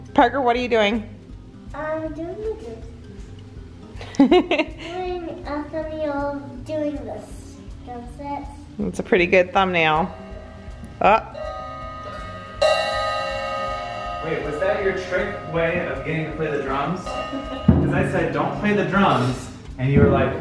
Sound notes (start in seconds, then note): 4.0 laughs; 11.8 cymbals